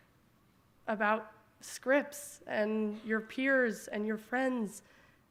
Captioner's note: none